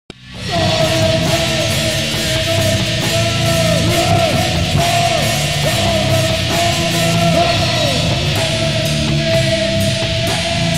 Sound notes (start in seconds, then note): 7.5 scream; 8.7 growl